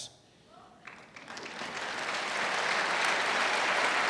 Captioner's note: applause